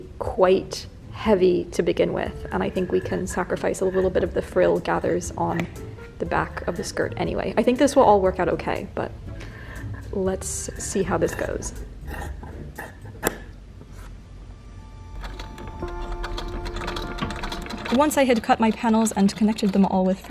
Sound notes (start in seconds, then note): 11.8 scissors snipping; 14.5 soft ethereal music